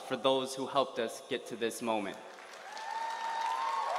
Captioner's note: applause